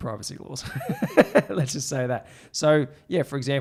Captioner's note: laughs